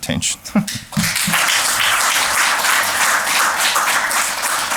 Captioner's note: applause